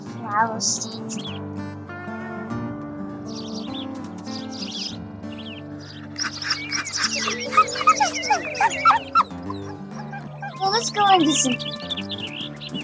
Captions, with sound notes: [Playful Pups Sounds] So Let's Go And Get Some Food.